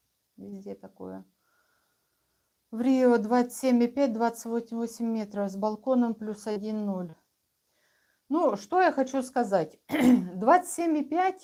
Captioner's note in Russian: откашливается